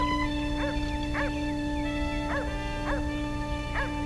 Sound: dog barks in distance

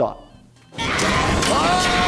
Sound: machinery whirring

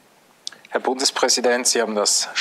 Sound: speaking german

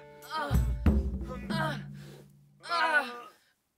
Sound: groans of passion

